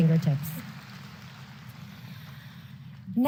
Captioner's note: applause